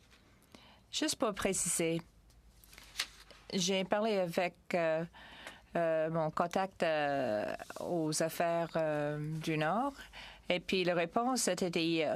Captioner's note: speaking french